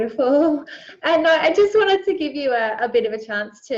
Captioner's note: laughs